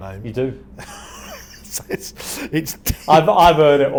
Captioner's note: laughs